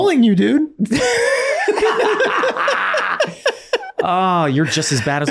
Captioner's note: everyone laughing